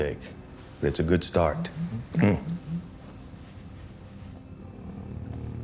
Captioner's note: cell phone vibrates